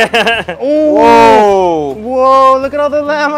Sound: both exclaim

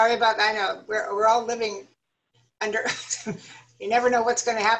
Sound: laughter

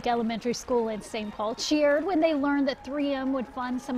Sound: cheering and applause

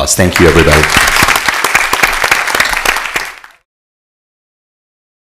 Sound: applause

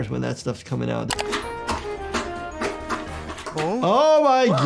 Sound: arrow plunging; gentle descending music; laughing

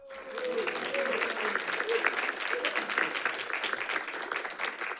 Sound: audience applauding

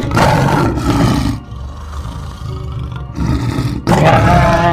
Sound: saber Tooth Tiger growls

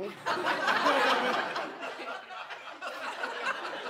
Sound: laughter

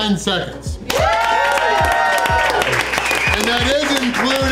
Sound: crowd; cheering

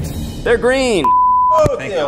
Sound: beep

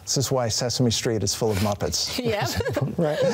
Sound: chuckles

